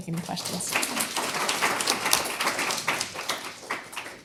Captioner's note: applause